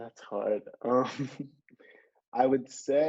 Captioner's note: laughing